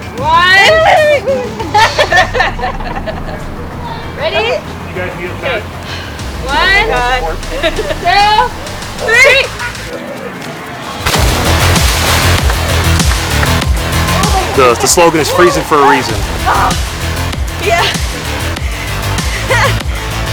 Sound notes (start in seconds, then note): 0.7 laughs; 10.8 water splashing; 11.1 upbeat music continues; 19.2 chuckles